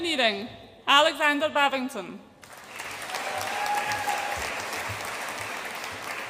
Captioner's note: audience applauds and cheers